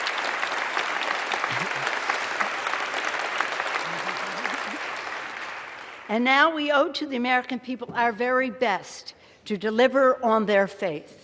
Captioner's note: applause